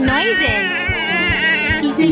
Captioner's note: baby cooing